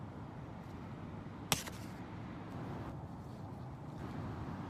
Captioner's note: bird thuds